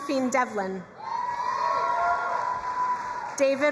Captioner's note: crowd cheering and applauding